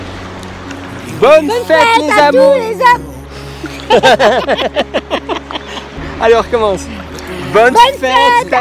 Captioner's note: laughs